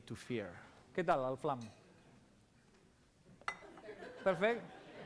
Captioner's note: non-english speech